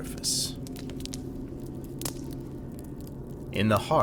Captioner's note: crackling fire